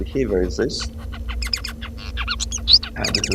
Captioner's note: bird singing